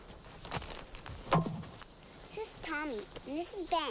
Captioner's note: hatchet thumps